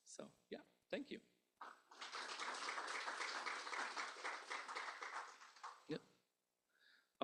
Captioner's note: applause